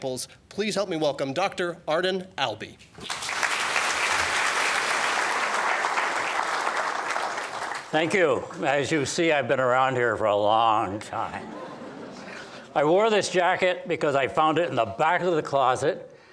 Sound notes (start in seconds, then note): 3.0 applause